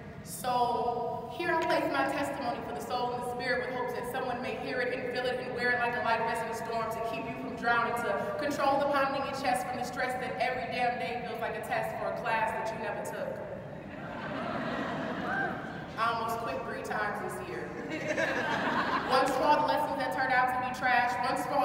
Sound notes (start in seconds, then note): 15.0 audience calmly cheering; 17.6 audience laughing